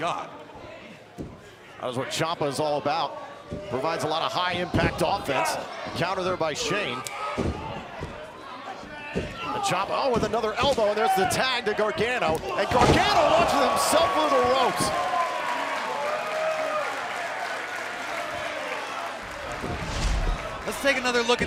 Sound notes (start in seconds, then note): 7.3 crowd chatter; 16.4 crowd cheering